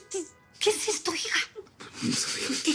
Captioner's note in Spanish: Risas